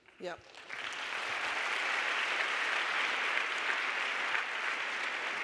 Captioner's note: audience applauding